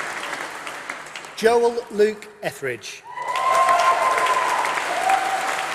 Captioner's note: applause